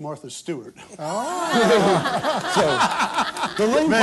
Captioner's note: laughter